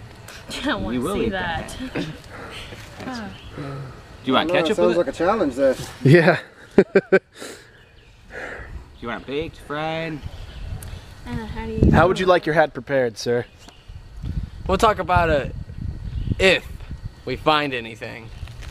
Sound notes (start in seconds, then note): 6.1 laughs